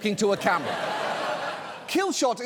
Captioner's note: audience laughing